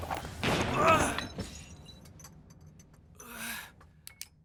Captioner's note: gunshot banging